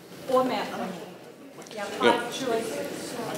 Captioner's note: speaking faintly